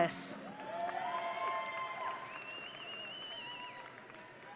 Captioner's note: audience cheering